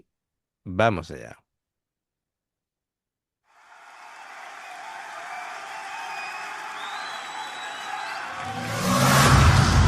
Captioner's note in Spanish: grito